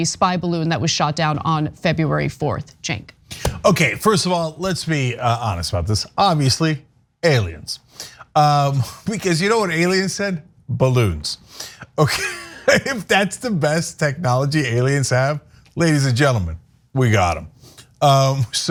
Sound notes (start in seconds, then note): 11.9 laugh